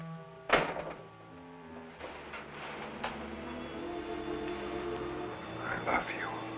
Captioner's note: suspenseful music continues; door thumping